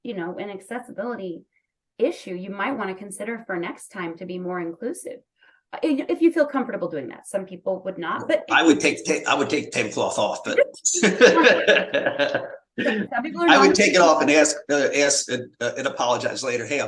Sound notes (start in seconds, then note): 10.9 laughter